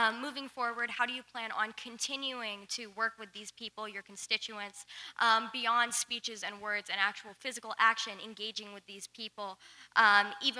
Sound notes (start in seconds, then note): none